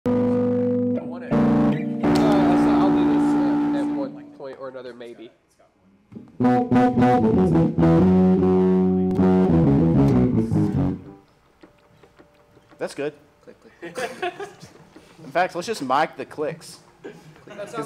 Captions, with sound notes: (guitar riff) - What if? You know what, I said I'll do this at like one point or another, maybe. - Let's go. (bass guitar riff) (tapping keys without music) - That's good. - Click, click, click. (laughing) - In fact, lets just mic the clicks